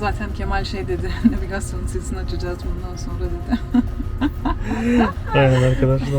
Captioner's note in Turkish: kahkaha